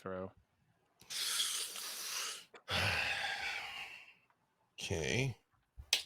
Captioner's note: breathes deeply